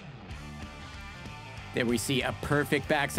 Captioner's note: crowd cheering